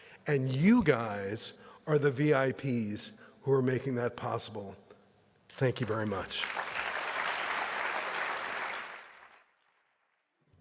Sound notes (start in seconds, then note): 5.8 applause